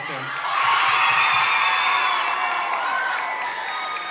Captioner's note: audience cheering